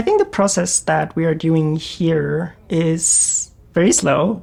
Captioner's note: ventilator humming